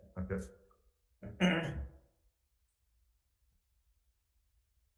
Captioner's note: person clears throat